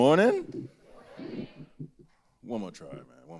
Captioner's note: quietly